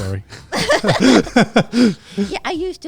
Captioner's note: everyone laughing